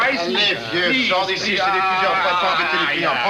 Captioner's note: speaking french